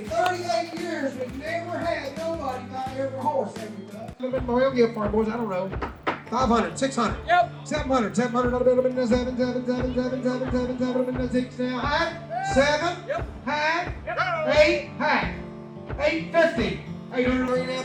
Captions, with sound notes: 38 years we've never had nobody buy every horse everybody. (auctioneer mumbling out prices)